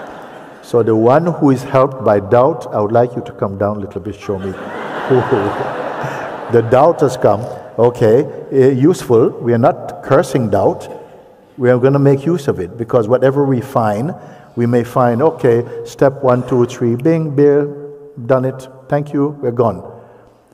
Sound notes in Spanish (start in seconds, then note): 0.0 voz de la audiencia; 0.0 risas; 4.4 risas